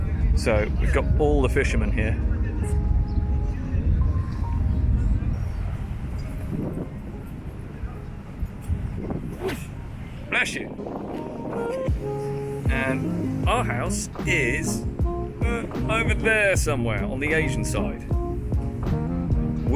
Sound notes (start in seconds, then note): 6.1 sneeze